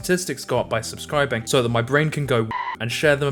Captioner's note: indecipherable screaming